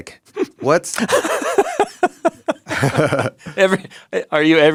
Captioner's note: laughs